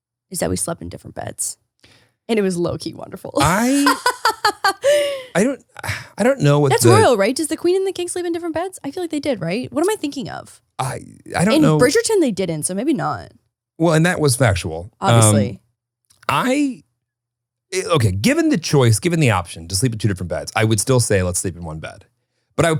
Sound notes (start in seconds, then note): 3.4 laughing